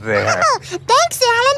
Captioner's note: elmo laughs